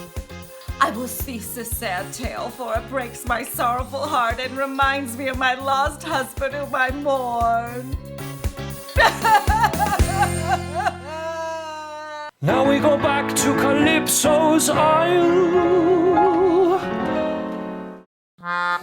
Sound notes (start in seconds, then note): 9.0 sobbing; 13.2 singing